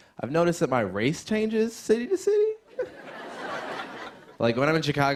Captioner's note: laughter